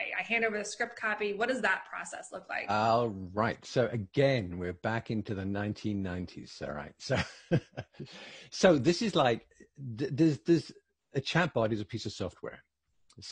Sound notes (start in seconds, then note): 7.0 laughing